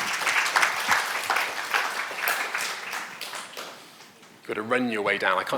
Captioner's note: audience applauding